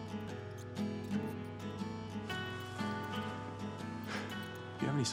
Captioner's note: mouse snuffling